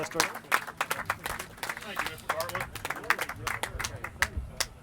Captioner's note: clapping